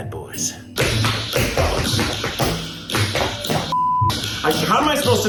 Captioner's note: tapping; beep